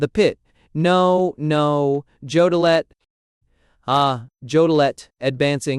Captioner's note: advancing, speaking through his nose